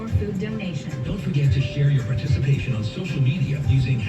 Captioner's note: on TV